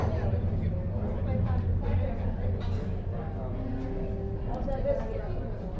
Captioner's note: noise of people talking in a cafe